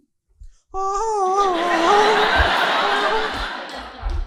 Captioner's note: humming